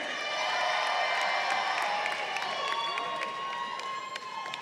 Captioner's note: crowd cheering